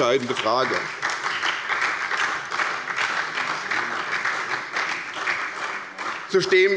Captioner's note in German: Beifall bei der SPD